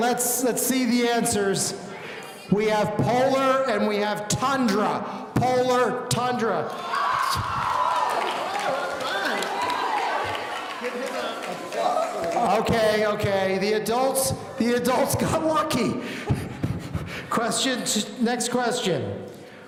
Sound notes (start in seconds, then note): 6.7 audience cheering